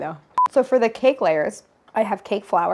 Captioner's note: camera beeps